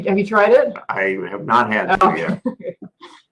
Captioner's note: laugh